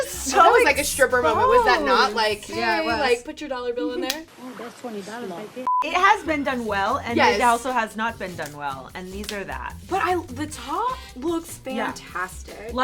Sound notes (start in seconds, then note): 3.6 elastic snaps; 5.6 beep